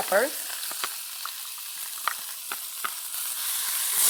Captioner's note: oil sizzling